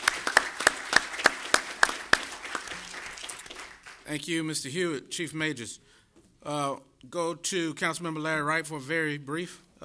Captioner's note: applause